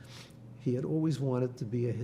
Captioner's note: none